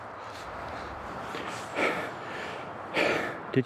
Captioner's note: heavy breathing